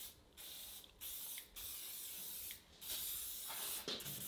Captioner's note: spray hissing